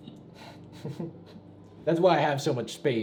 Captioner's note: chuckles